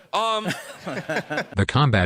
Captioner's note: the developers laugh